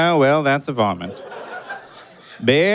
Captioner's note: audience cackles